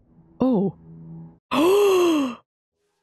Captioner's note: gasp